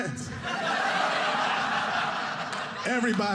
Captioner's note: audience laughing